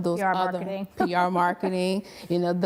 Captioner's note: she laughs